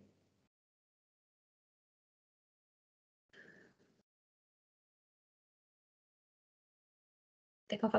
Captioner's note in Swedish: Tystnad